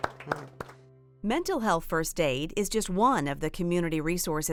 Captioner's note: applause